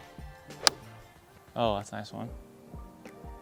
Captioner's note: thudding